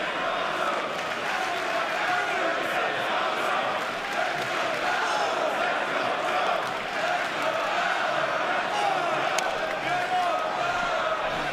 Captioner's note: fans chanting